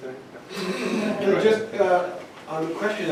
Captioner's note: weak laughter